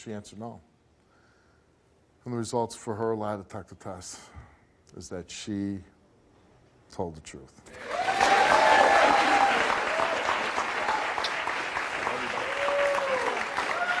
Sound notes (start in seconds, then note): 7.7 audience cheering